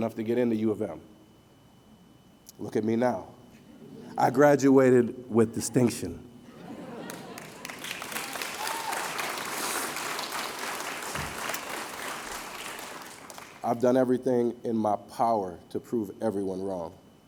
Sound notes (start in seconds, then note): 7.0 applause